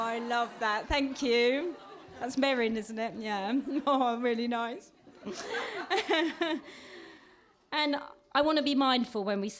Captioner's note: laughter